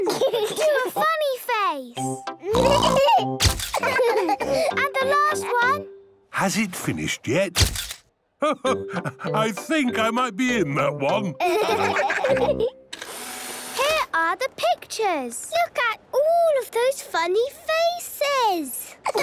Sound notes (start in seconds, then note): 0.0 giggling; 3.7 all laughing; 7.7 camera clicks; 13.0 whirring